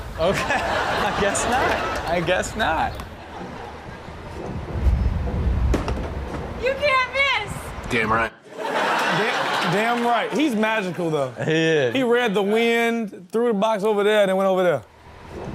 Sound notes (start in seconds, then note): 5.7 box thuds; 8.4 audience laughs